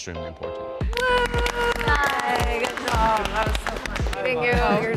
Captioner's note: participants clapping